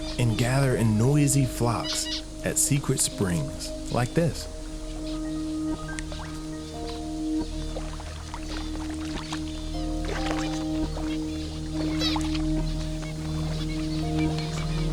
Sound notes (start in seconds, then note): 8.3 water splashes; 12.3 birds warble